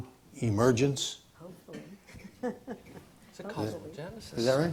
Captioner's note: laughs